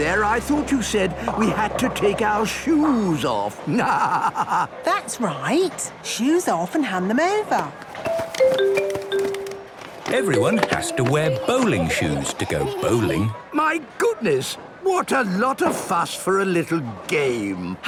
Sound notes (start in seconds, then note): 3.6 laughing